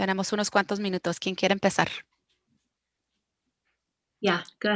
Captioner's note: speaking foreign language